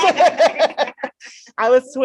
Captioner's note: laughter